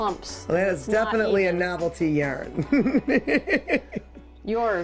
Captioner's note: laughs